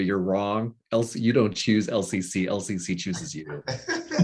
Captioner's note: laughing